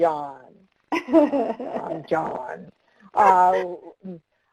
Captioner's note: laughter